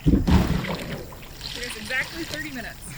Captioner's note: dragging thud